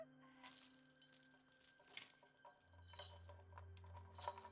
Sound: chains rattle

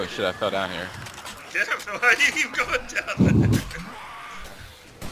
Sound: laughs

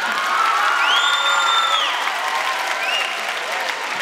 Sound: applause

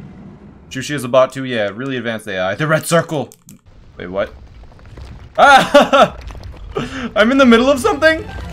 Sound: laughs

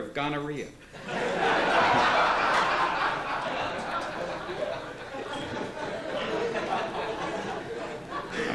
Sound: laughter

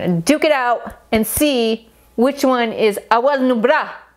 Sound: speaking foreign language

